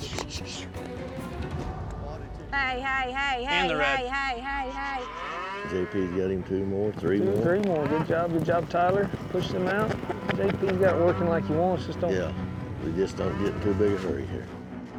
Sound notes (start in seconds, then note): 4.4 cows moo